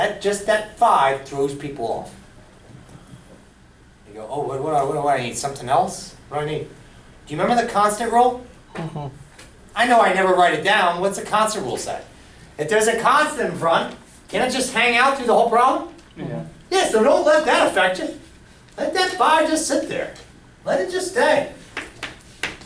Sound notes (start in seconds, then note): 10.0 voiceover; 16.5 voiceover